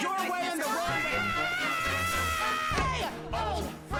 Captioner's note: screams